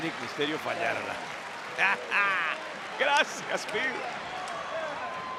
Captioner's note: laugh